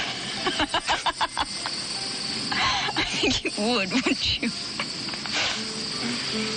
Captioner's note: she laughs